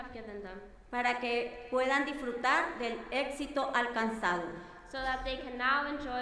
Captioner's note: speaking in foreign language